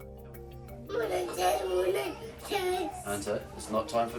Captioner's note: babbles